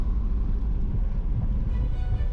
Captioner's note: car Engine